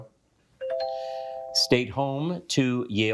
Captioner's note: bell dings